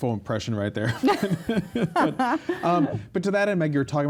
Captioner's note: laughs